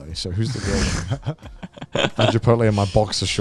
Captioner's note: laughing